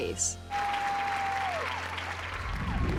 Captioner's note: cheering